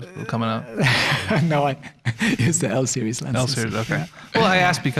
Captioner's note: laughing